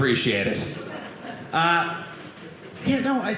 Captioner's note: audience laughing